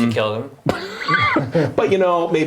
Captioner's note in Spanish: risas